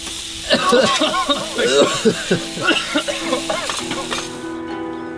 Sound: coughing

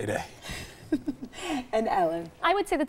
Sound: laughing

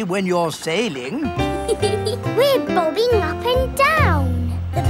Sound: giggles

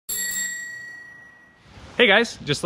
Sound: bike bell rings

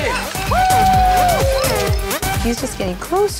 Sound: cheering

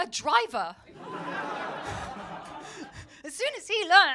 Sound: laughter

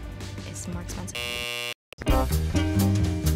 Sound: buzzer beeps; upbeat music

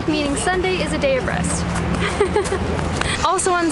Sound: giggles

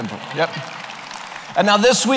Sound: applause

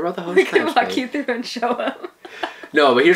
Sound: laughs

